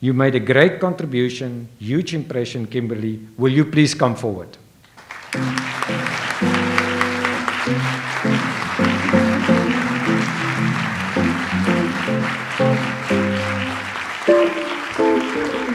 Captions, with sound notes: You made a great contribution, huge impression. Kimberly, will you please come forward? (audience applauds) (light jazz music)